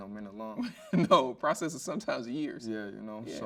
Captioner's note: chuckles